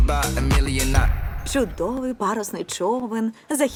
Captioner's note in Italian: tonfo